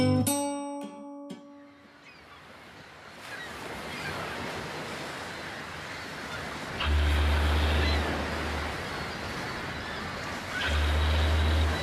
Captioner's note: acoustic guitar; birds squawking as they fly over the ocean, ocean waves flowing